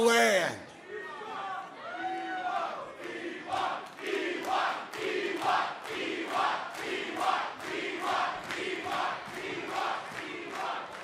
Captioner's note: crowd cheering